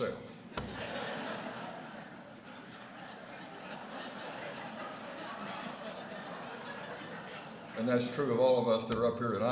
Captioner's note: laughter